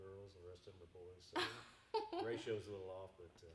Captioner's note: laughing